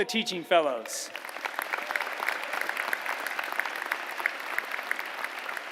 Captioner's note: applause